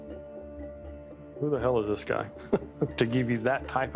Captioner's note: chuckles